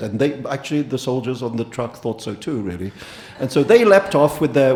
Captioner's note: audience laughing